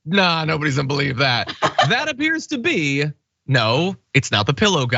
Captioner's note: laugh